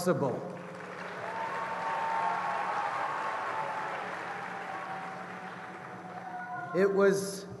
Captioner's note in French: Acclamations et applaudissements